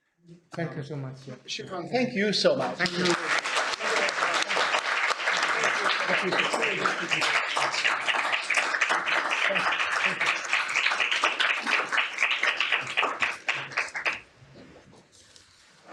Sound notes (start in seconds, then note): 3.9 applause